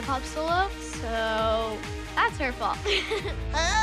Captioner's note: laughs